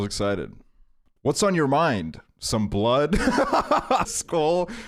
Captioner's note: laughs